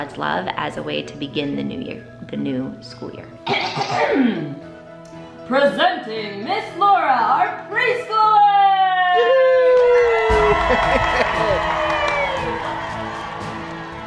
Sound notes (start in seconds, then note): 3.5 clears throat; 10.9 cheering